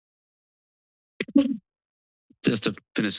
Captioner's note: microphone noise